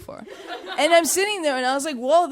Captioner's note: audience chuckling